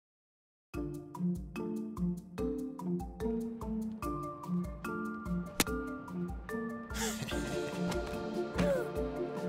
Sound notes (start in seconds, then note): 0.3 mysterious music; 7.0 chuckles